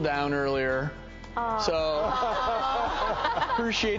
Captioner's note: audience laughs and aah's